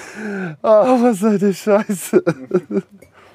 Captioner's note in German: lacht